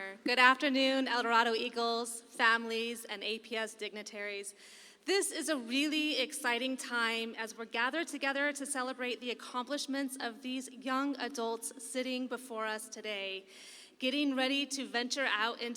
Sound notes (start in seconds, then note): none